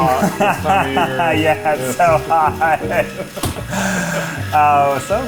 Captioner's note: laughs